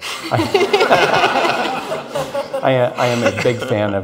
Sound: audience laughs

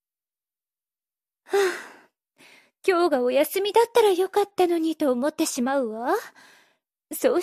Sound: sigh

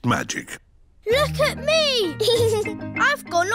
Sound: giggles

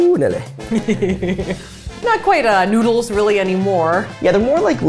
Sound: laughing

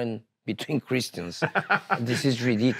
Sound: laughs

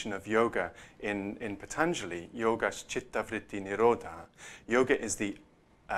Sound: non-english

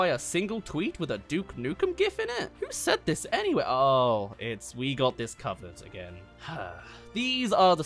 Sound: sigh

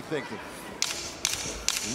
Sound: sticks clacking

